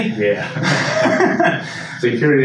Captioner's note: everyone laughs